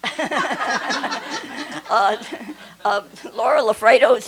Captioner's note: laughter